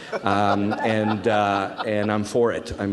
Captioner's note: audience laughs